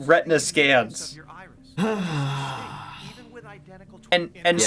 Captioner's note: sighs in biometric privacy concerns